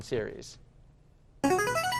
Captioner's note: chiming